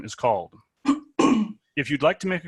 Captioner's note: coughing